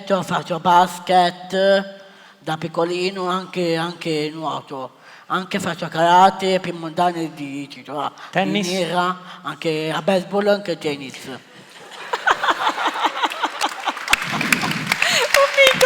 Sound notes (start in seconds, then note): 11.6 Risate; 14.7 Applauso